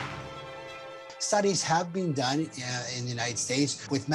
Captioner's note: audience applauds